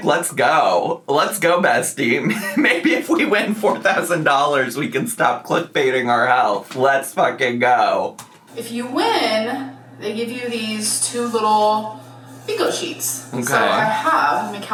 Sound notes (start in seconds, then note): 2.2 laughing